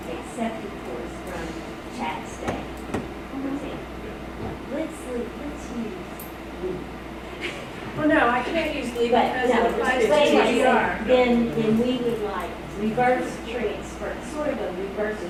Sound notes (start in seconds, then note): 7.4 chattering